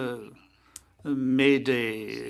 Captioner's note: speaking French